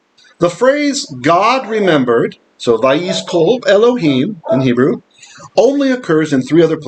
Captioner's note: Hebrew